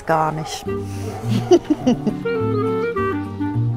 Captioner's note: she laughs; calm music